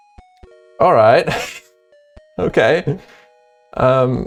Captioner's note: laughs